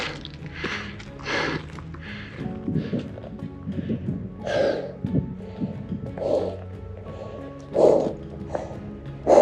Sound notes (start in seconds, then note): 1.5 heavy breathing